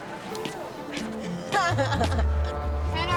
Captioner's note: laughs